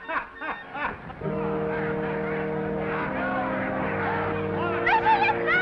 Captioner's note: playful music; waiter laughs; attendees chattering; somber music